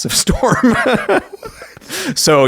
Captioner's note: laughing